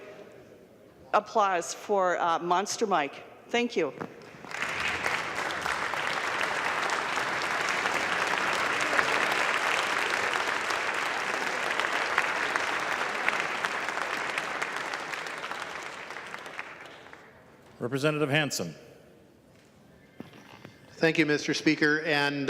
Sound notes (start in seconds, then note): 15.8 clapping